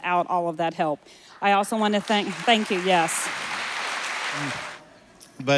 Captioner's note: applause